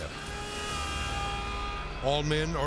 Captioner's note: siren wailing